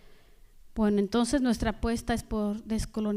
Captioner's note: speaking spanish